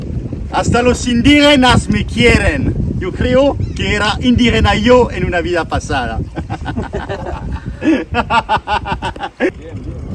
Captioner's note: laughs